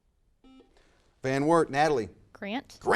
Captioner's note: buzzer buzzes